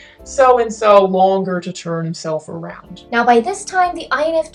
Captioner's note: low voice